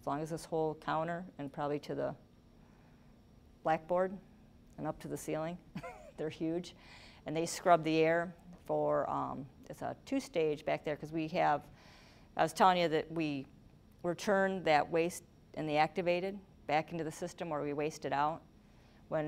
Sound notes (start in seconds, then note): 5.7 chuckling